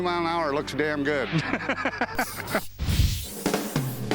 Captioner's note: laughter